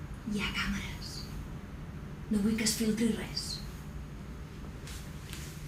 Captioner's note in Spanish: susurrando